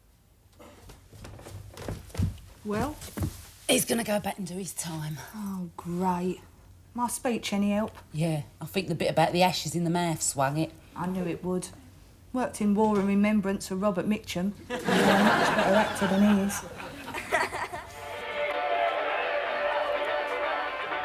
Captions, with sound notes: - Well? - He's gonna go back and do his time. - Oh, great. My speech any help? - Yeah, I think the bit about the ashes in the mouth swung it. - I knew it would. Worked in "War and Remembrance" for Robert Mitchum. (audience laughing) And you are a much better actor than he is. (upbeat pop music)